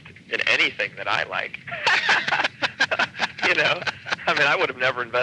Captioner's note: laughing